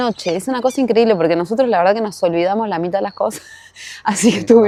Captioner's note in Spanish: risas